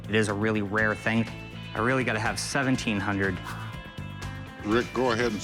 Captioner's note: none